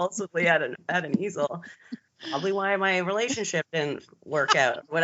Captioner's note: both giggling; both laughing